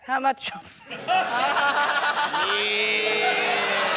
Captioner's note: laughter